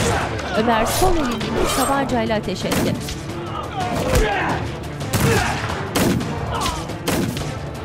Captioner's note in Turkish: Dövüş sesleri; Silah sesleri